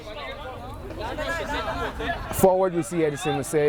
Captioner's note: players shouting